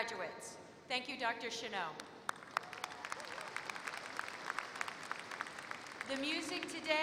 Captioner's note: applause